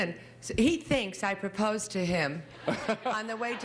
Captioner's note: Bert laughing